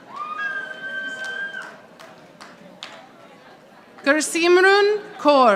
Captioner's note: audience applauding